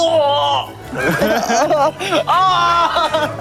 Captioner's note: haha